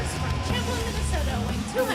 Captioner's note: bell ringing